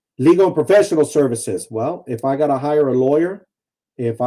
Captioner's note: none